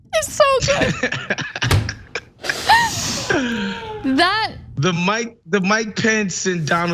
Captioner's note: laugh